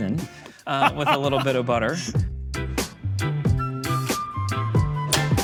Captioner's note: laughs